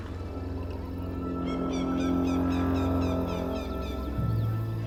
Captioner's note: birds squawking